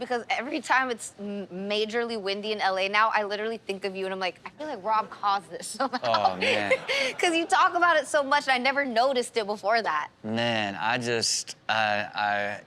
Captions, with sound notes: because every time it's majorly windy in LA now I literally think of you and I'm like, "I feel like Rob caused this somehow." (laughs) - Oh man. - Because you talk about it so much and I never noticed it before that. - Man, I just, even as...